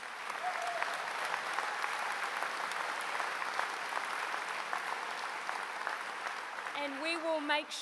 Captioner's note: applause